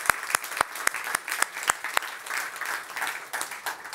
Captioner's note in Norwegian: Applaus